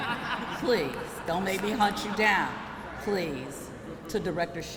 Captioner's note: laughter